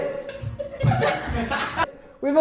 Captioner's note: laughter